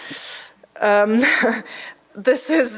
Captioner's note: chuckling